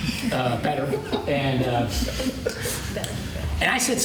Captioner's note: laughter